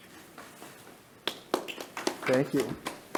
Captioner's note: clapping